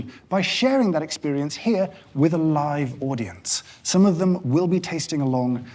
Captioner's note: none